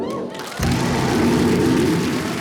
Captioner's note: bang